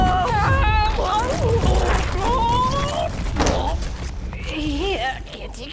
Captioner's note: screams, groans